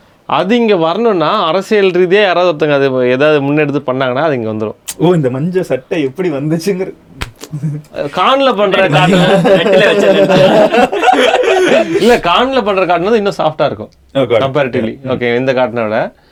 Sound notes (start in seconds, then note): 7.3 laughs; 8.7 group laughs